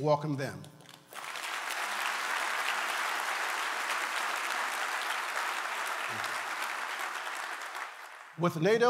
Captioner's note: applause